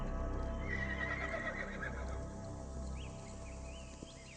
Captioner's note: horse neighing; birds chirping